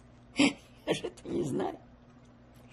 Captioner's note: laughing